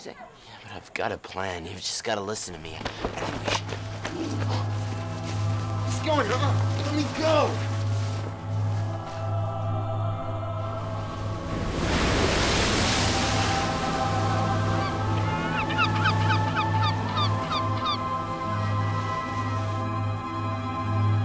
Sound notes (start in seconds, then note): 10.8 waves crashing; 14.4 seagull cawing